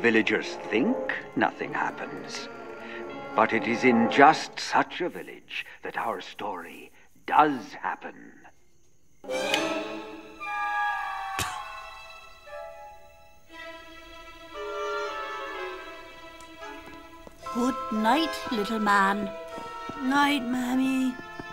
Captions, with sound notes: think nothing happens, but it is in just such a village that our story does happen! (light switch flips) (spit) - Goodnight little man. - Night Mammy.